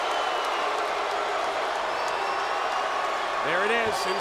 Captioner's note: audience cheering